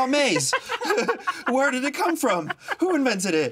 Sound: both laugh

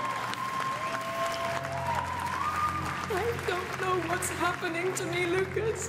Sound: applause

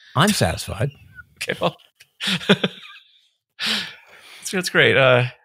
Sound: chuckles

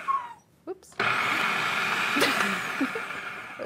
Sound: laughs

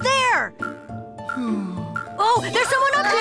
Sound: Poby sighs

